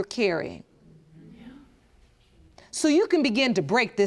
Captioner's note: whispers